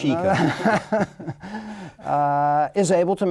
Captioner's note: laughing